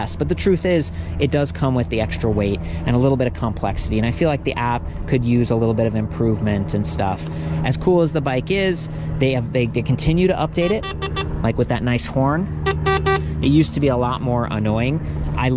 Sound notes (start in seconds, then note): 10.6 honking; 12.6 honking